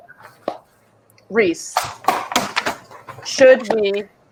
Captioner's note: claps; papers tapping